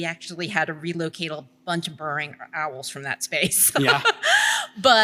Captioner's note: laughs